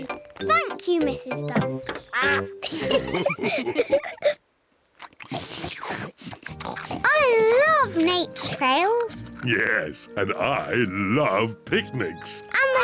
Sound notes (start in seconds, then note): 2.1 all laugh; 4.9 all munch